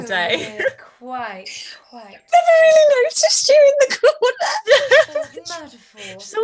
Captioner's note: laughs